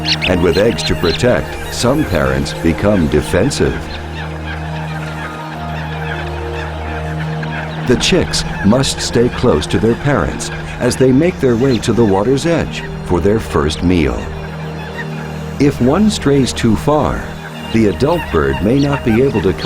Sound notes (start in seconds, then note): 0.0 birds chirping; 3.8 birds chirping, squawking